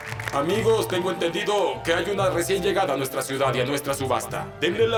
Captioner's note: audience applauds